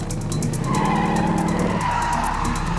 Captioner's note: tires squealing